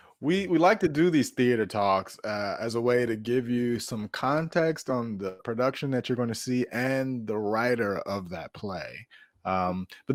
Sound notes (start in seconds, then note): none